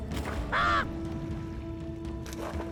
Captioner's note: caws